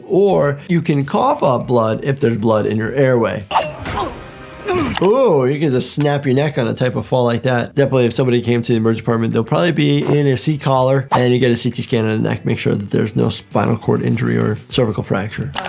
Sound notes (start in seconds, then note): 4.6 Invincible groaning